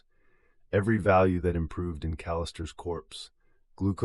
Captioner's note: exhale